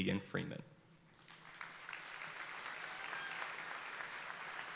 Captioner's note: audience applauding